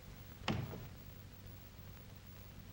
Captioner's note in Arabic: يصطدم بالباب